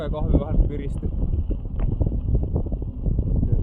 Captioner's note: wind blowing